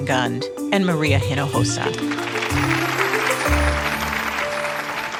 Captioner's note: audience clapping